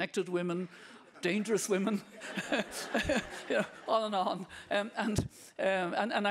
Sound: audience laughing

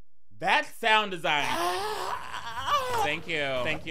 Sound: groaning

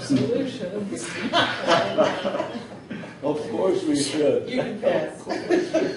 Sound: laughs

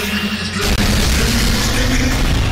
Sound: lazer gun shoot

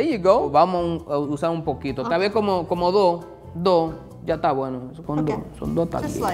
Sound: speaking in foreign language

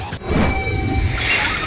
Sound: whooshes

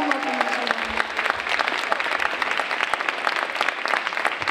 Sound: audience applauding

